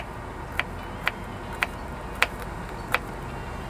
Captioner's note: knife tapping; air conditioner whirring; soft music